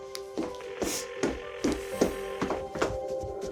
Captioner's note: phone ringing